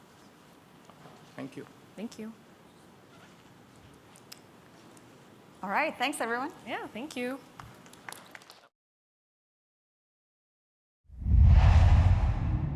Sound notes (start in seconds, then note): 7.6 applause